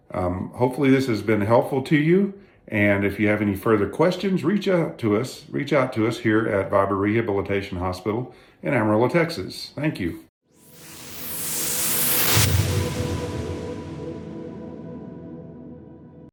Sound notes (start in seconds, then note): 10.6 whooshing